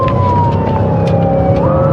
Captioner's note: sirenen b blariringn